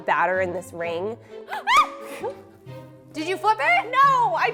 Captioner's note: screams